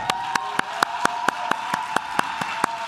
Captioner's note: claps